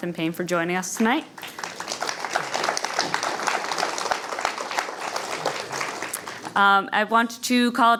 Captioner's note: applause